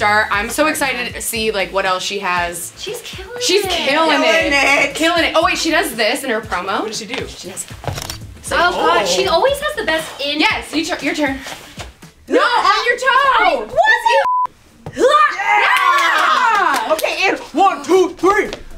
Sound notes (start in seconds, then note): 8.0 camera shutter sound; 15.0 women cheering